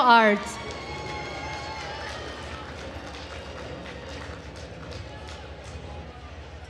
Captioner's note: attendees cheering and applauding